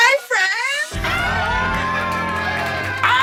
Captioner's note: cheering appropriately